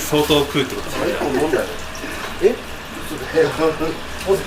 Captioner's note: laughs